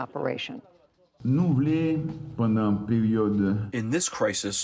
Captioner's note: through translator